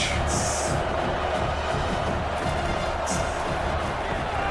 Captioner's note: crowd Noises